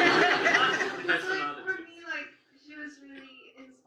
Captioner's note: audience laughs